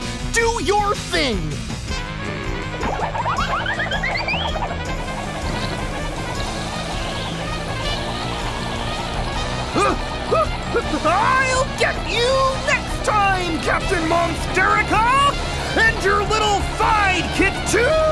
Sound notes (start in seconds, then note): 2.3 upbeat music; 9.7 screaming